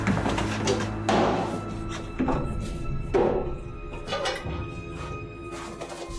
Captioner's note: slamming down folder and opening it